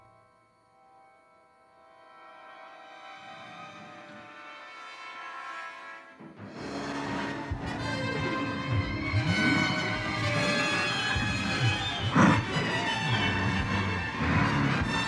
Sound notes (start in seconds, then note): 6.0 dramatic music; 6.2 Donald growling